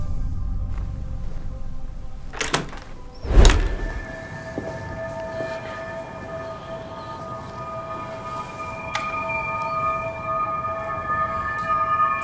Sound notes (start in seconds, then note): 0.2 gentle music; 2.4 door rattles; 3.2 humming frequency